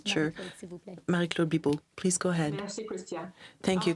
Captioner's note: speaking French